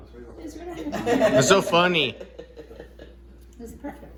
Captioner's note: laughing